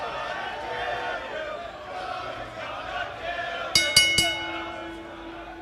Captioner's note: fans chanting; bell